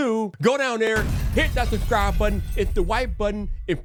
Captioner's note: glass crashes